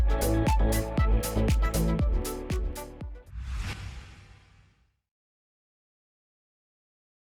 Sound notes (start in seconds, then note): 3.2 swooshing